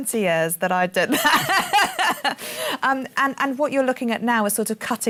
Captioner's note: laughs